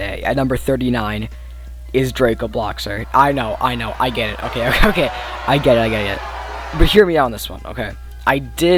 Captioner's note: crying sound effects and boos